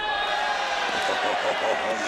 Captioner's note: crowd cheers